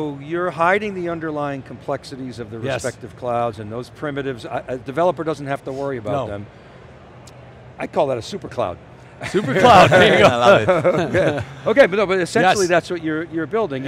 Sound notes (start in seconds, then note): 9.2 laughing; 9.2 laughs